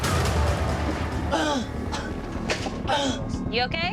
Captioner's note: gasping, coughing